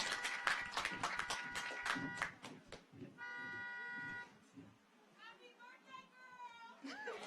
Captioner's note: audience applauds; car horns honking